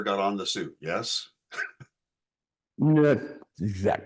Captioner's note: chuckling